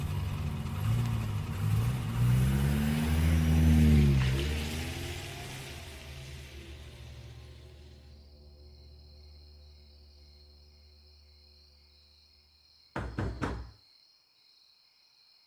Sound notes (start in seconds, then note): 0.1 motor humming; 6.8 insects chirping; 12.9 knocking